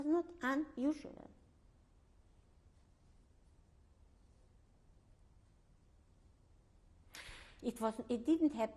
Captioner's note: pauses for 6 seconds